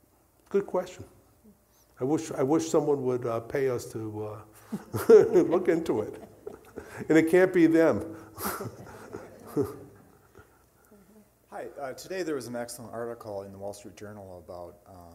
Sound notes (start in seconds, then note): 4.6 laughing; 7.9 audience laughing